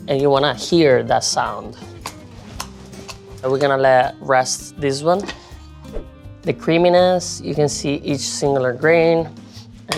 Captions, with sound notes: And you wanna hear that sound. [risotto slapping] [soft gentle music] And we're gonna let rest this one. And the creaminess, you can see each singular grain